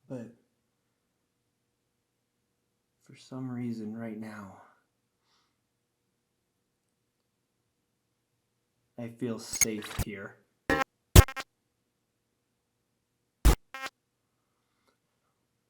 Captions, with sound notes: But for some reason right now, I feel safe here. (static crackling)